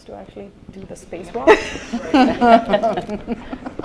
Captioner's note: laughter